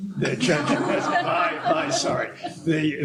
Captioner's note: laughter